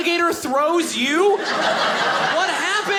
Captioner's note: audience laughing